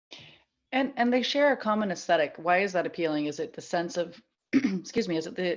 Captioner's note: coughs